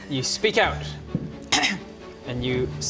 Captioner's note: ahem